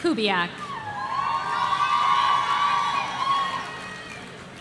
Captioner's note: audience cheering